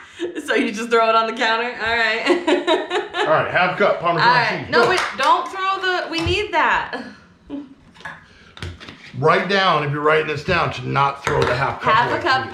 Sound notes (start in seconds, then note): 5.2 cup clatters